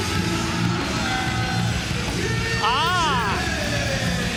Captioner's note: bell ringing